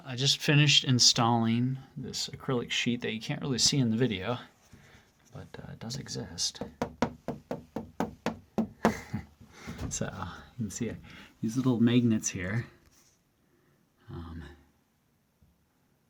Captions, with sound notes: I just finished installing this acrylic sheet. that you can't really see in the video, but it does exist. (knocks on plastic) So, you can see these little magnets here. Um,